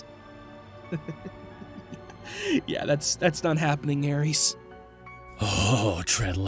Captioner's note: smug laughter